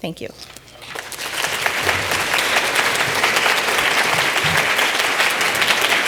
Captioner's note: audience applauds